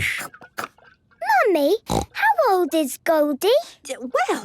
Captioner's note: snorting